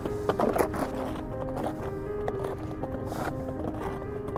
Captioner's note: nieve crujiendo; música misteriosa